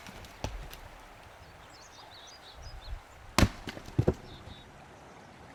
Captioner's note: birds singing